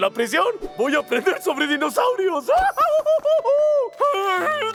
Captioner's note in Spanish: se ríe